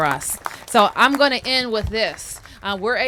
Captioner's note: applause